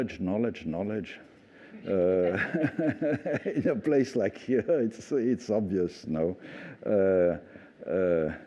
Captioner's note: laughter